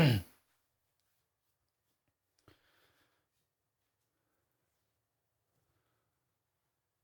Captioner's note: silence